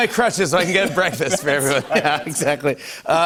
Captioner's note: laughing